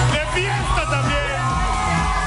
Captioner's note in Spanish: gritos